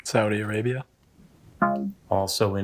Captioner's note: womp chimes